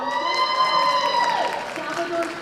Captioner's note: cheering